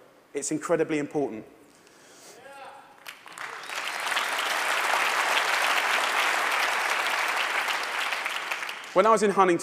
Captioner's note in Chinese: 掌聲